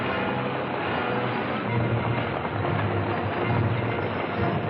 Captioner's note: horses galloping; action music